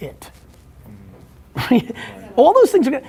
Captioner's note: Gary laughs